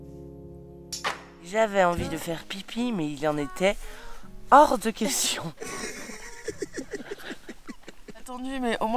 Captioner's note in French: rires